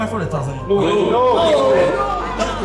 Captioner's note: crowd cheers